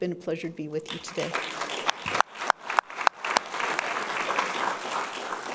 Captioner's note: audience clapping